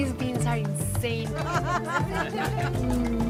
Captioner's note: laughter